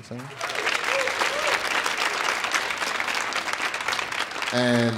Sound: audience applauding

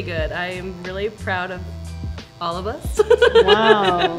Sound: laughing

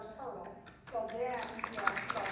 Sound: applause from audience

